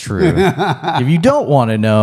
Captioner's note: laughs